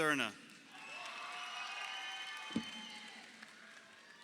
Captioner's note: crowd cheering